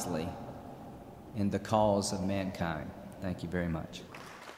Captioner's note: applause